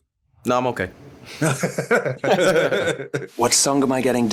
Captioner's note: laughter